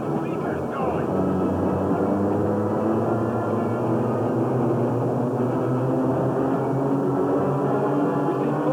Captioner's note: loud humming noise